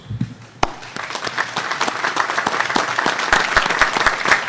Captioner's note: audience applauding